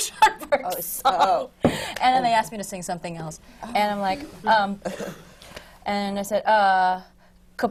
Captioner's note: laughs